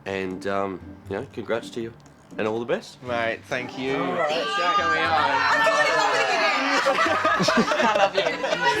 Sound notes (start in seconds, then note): 3.7 voiceover; 5.4 laughing